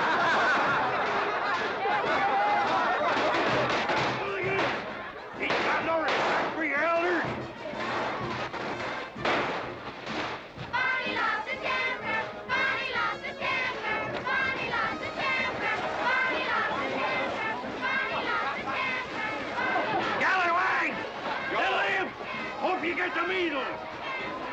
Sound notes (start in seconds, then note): 0.0 children laughing; 7.7 firecrackers popping; 10.6 children chanting